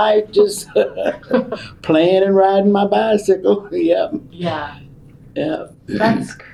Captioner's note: laughs